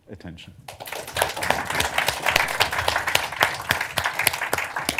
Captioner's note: applause